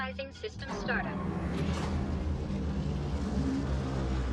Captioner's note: portal thrums